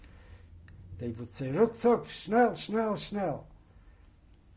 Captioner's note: german